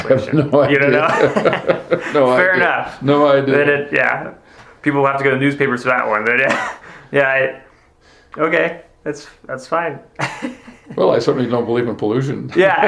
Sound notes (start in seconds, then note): 0.0 laughing; 3.2 both laughing